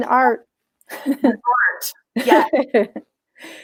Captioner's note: laughs